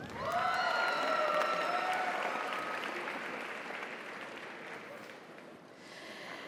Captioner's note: audience cheers; audience applauds